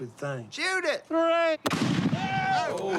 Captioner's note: gun firing